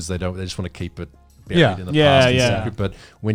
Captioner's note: group laughs